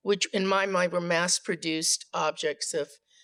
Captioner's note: none